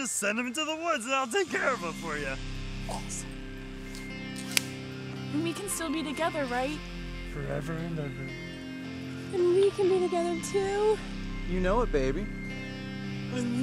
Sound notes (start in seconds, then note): 4.4 clap